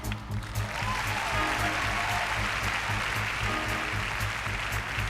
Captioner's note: applause